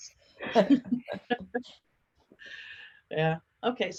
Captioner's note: laughing